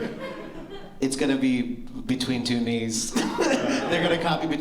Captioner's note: laughter